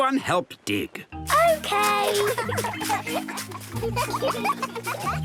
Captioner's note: giggling